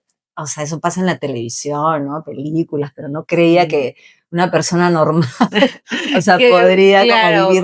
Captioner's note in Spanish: risas